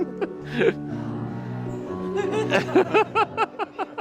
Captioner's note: both chuckling